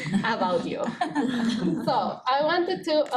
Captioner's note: students laughing